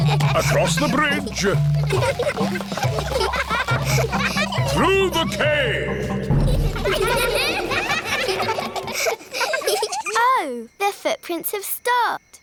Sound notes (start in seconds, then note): 4.3 echoing